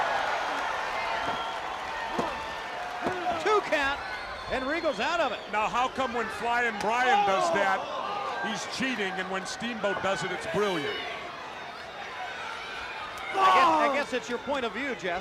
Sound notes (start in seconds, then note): 0.1 crowd cheering; 2.7 crowd chatter; 13.1 crowd chatter